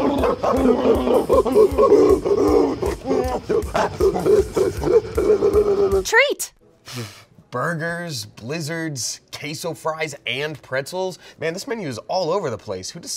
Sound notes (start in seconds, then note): 0.0 skaters growling and barking; 7.1 blows